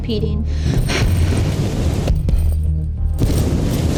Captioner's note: waves crashing